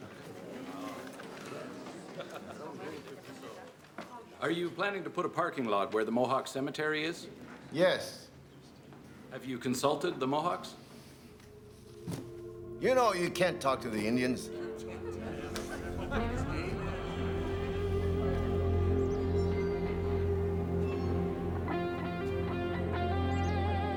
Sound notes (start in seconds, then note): 0.0 audience chattering; 15.9 audience chattering; 20.1 suspenseful guitar music